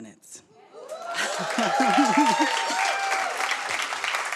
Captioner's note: audience cheers